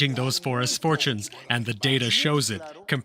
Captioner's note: foreign language